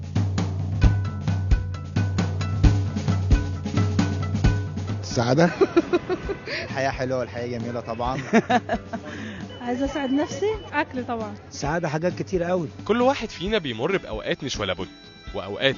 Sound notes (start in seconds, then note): 7.8 laugh!